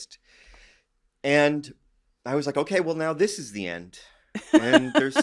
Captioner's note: laughs